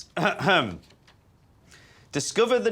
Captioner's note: clears throat